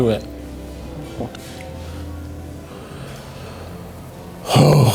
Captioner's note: swallows